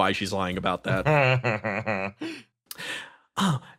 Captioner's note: laugh